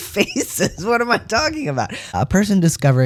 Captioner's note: laugh